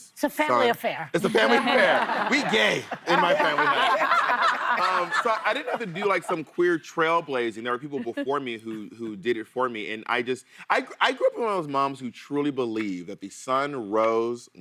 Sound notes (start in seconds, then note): 8.6 laughter